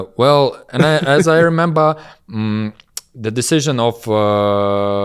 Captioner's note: laughs